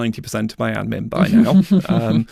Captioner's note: chuckles